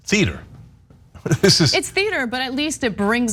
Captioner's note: laugh